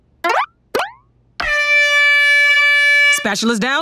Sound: horn blowing

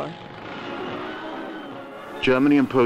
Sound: truck engine roaring

